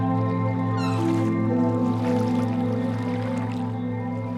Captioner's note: bird squawks